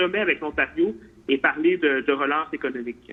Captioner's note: speaks French